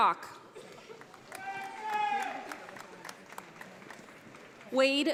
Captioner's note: audience applauding